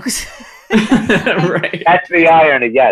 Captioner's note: laughing